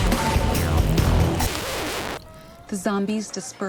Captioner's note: record player needle scratch